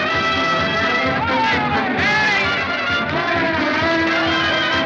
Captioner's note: laughing, Shouting